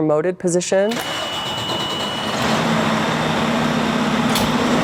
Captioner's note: fire truck starting